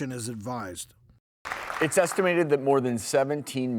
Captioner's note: audience clapping